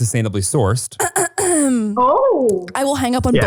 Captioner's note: clearing throat